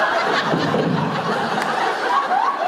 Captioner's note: laughter; clunk